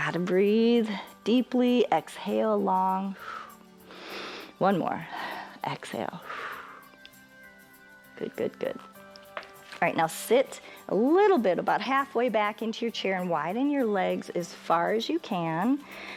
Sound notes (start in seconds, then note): 6.1 exhales